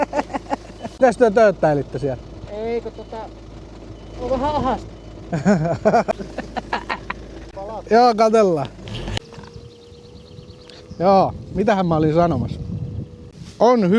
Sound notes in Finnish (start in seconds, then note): 0.0 naurua; 5.3 naurua